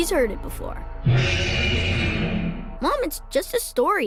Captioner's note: growling